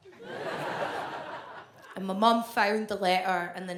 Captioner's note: audience laughs